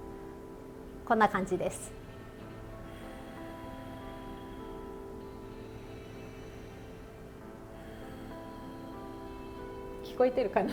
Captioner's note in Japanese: 呼吸音